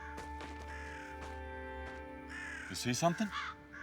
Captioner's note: crows squawk